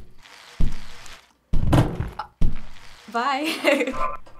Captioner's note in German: Fahrradräder rollen; Dumpfer Schlag; Blut spritzt; Track warbles